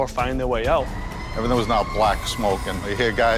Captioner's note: sirens